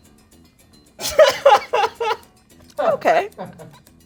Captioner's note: laughing; quirky music